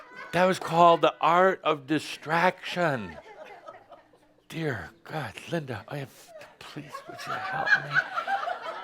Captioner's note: more laughter; laughter